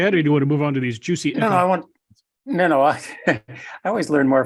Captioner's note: laugh